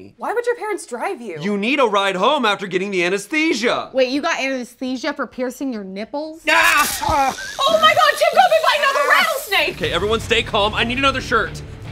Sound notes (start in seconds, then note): 6.5 screams